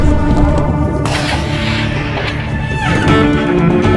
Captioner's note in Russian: выстрел